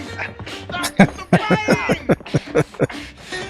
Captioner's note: laughing